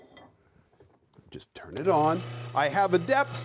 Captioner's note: machine whirs